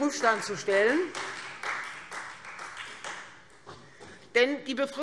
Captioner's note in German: Beifall Freie Demokraten